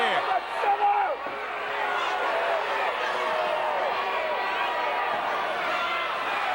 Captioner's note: audience cheering